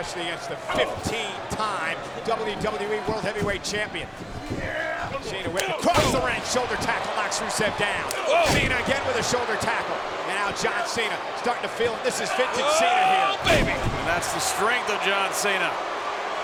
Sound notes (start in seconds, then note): 0.0 blow thudding; 4.9 fighters grunting; 7.3 body thudding; 13.4 body thudding